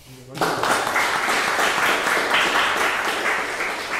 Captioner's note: audience applauding